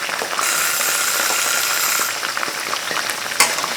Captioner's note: timer rings